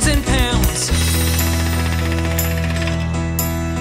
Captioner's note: impact hammer sound